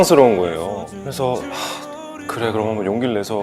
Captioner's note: sigh